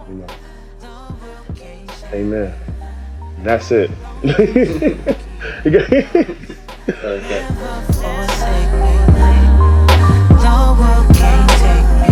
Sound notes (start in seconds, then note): 4.2 laughter; 8.2 light music